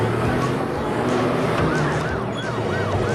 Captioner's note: police siren